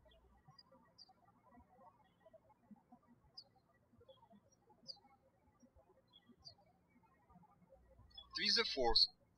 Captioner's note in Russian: птички щебечут